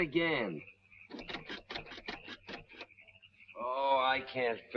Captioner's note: engine ticking